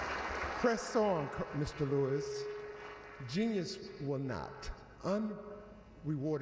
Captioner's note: applause